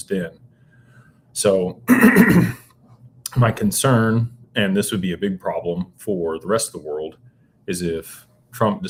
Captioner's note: clears throat